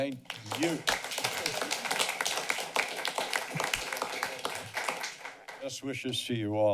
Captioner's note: applause